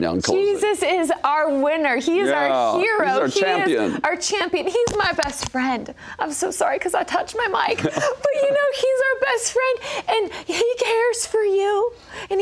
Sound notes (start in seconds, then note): 7.7 laughs